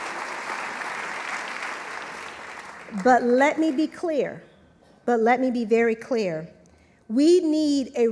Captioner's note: applause